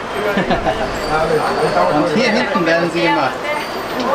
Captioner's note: laughs